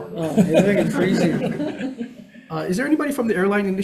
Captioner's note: audience laughs